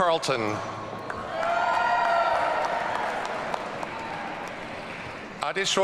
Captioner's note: audience cheering